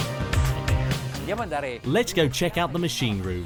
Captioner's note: man speaks in foreign language